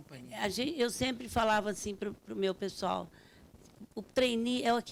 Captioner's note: speaking Portuguese